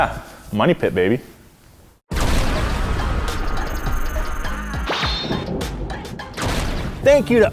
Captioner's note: hip-hop music; thunder cracking